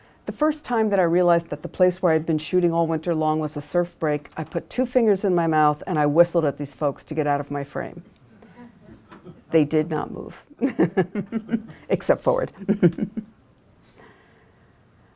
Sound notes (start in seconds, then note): 12.5 laughs